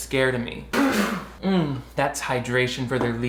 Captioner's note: spits drink